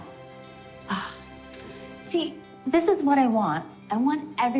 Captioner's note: sighs